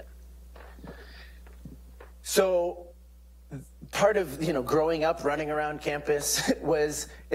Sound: laugh

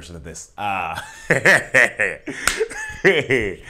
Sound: laughing

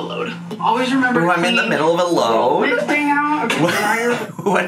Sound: laughs

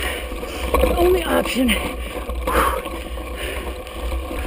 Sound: exhales

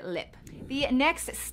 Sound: wind whooshing

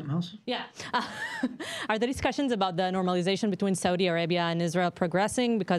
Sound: laughter

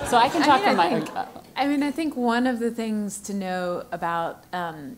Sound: laugh

